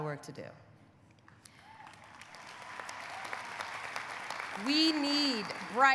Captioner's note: audience applauding; audience cheering